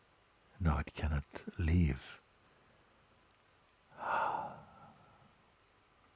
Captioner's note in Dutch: ademt uit